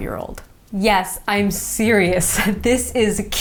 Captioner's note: chuckles